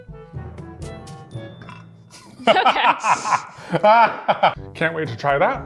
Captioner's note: laughs